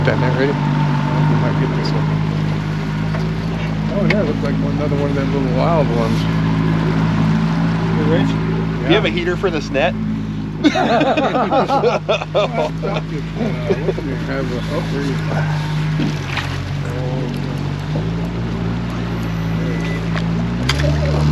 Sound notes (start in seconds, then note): 14.4 laughing; 15.8 boat engine running